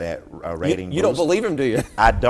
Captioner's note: chuckling